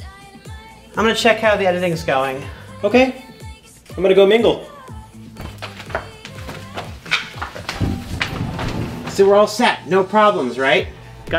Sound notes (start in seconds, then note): 5.3 footsteps; 7.6 door sliding open